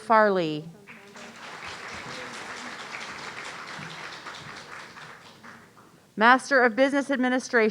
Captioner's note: audience applauding